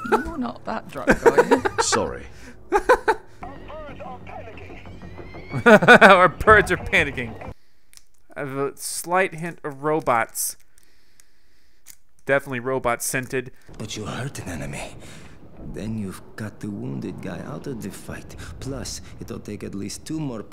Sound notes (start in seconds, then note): 3.2 voiceover; 5.1 laughs; 10.9 sniffs; 13.9 voiceover